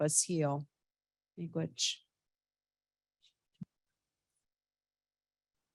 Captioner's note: speaking indigenous language